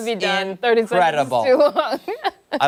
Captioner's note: laughter